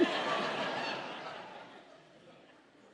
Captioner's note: audience laughing